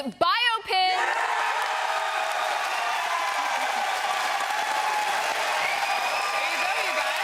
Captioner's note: cheering and Applause